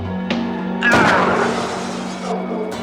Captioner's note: gun fires